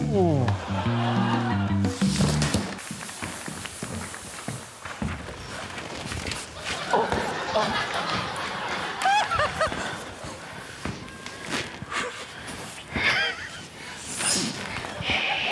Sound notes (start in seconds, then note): 0.0 groans; 0.4 laughter; 2.6 fog machine hisses; 6.6 laughter; 9.2 laughs; 12.8 snickers